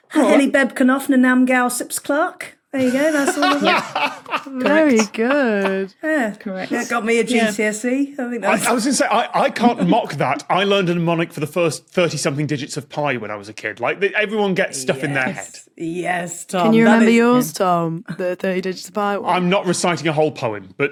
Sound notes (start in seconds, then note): 3.2 cackles warmly